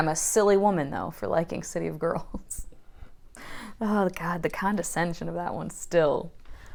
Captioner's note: laughing